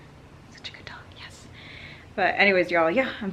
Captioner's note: whispers